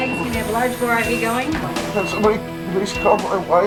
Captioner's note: nurse chattering